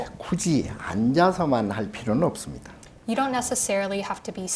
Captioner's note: speaking Korean